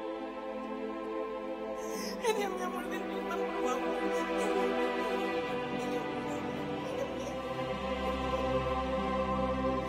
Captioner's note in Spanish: Sollozos